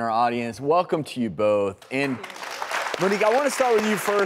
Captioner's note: audience applause